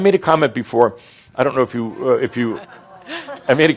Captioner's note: audience says “Oh” referring to Mary Sue’s broken arm